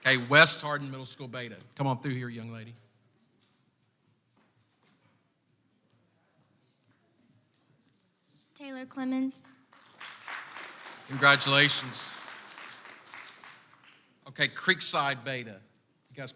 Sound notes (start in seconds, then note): 9.6 audience applauds